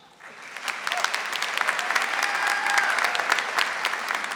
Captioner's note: audience applauding